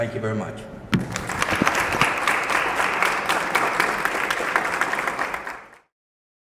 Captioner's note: applause